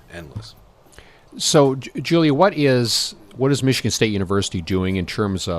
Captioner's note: voiceover